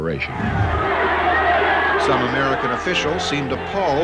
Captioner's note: a loud din from crowd